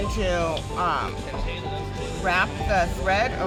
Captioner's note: indistinct chatter